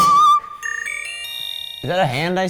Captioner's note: chimes tinkling